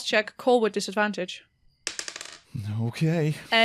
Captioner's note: good dice clacks